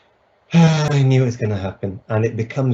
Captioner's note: sighs